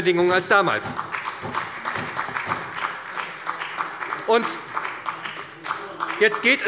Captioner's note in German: Beifall bei der SPD